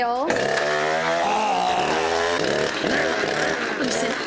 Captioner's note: chainsaw roars to life